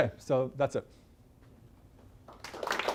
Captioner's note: applause